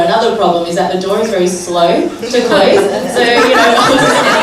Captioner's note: laughter